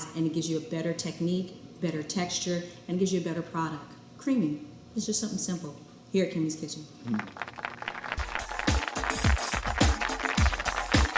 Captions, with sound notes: And it gives you a better technique, better texture, and gives you a better product. Creaming, it's just something simple here at "Kimmie's Kitchen". (audience claps and cheers) (upbeat music)